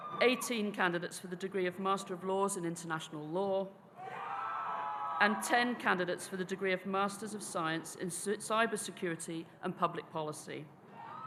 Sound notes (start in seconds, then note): 0.0 audience cheering; 4.0 audience cheering